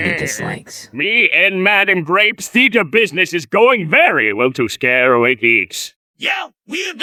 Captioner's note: Plankton Voice